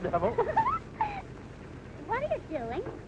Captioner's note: laughs